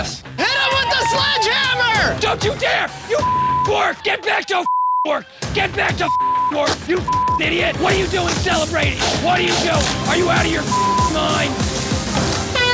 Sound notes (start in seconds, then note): 3.2 beep; 6.0 beep; 10.6 beep